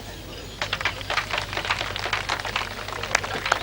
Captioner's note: applause